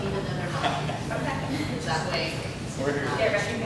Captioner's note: murmurs